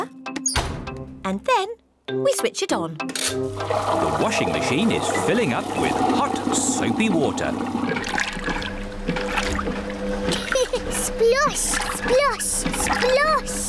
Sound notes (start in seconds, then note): 7.7 machine rumbles; 10.3 giggles